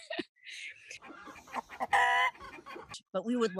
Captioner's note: laughs; chickens clucking